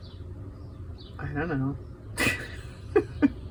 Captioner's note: laughs